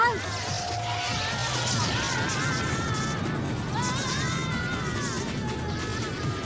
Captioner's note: black widows wailing